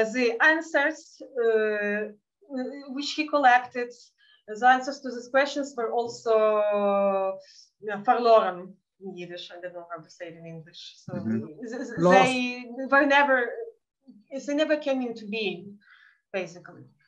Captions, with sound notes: and the answers which he collected the answers to these questions were also for (speaking in Yiddish) in Yiddish I don't know how to say them English. So they never came to be basically.